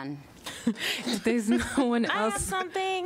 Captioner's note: laughter